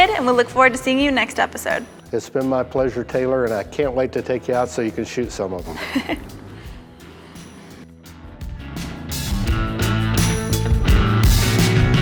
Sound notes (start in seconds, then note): 5.7 laughs; 8.8 energetic music